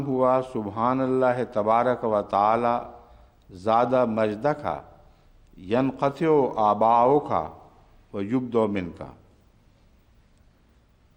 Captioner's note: Arabic